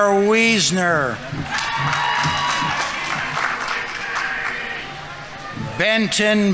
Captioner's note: audience members cheering; audience applauding